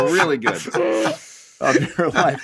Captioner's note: all laughing